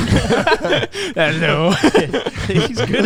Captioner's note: all laughing